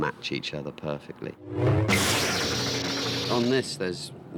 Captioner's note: lightsabres Crackle